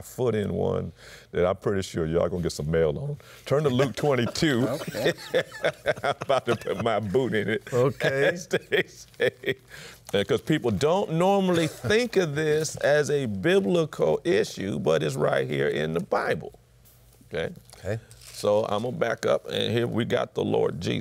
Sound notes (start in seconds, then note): 3.6 laughs